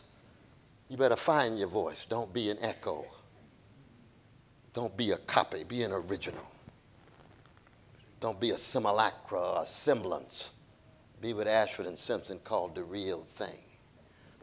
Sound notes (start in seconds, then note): none